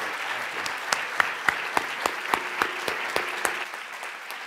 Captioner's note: applause